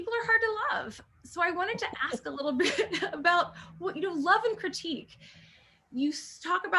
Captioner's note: laughter